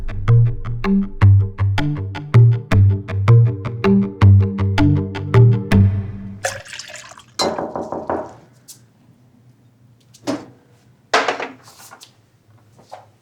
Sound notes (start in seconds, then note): 6.4 water pouring; 7.4 knocking